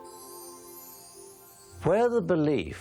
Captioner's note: chimes tinkling